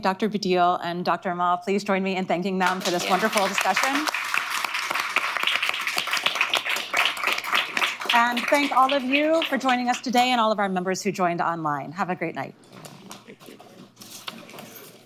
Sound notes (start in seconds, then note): 6.7 applause